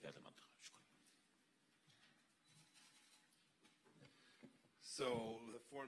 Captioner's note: silence